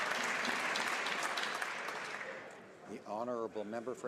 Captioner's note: applause